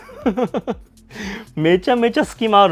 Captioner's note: laughs